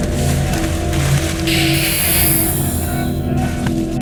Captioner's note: hissing